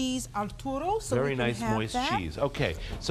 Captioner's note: speaking Italian